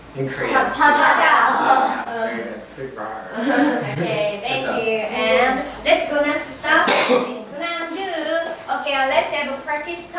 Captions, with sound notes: (speaking foreign language) Very good, very roar. (laughing) - Okay thank you and let's go now to some...